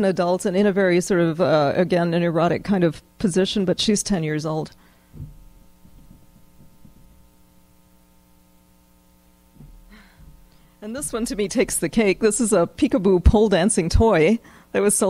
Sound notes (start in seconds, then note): 6.6 pause